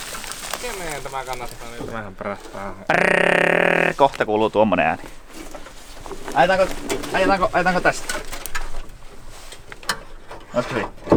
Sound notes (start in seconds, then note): 2.8 sound mimic